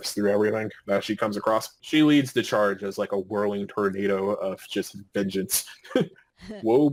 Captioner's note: laughing